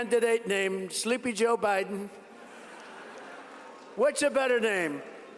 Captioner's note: laughter